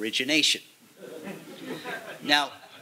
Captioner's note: chuckling